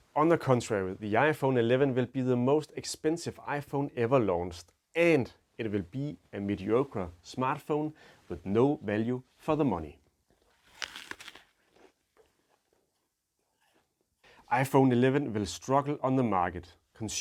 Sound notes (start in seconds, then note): 10.4 crunches apple